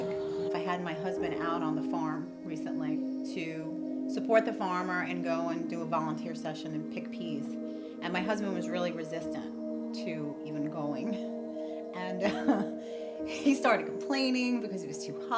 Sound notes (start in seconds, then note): 12.1 laughs